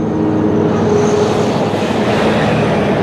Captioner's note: traffic whooshing